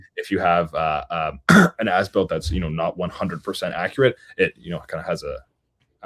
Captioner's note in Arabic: يُصفّي حلقه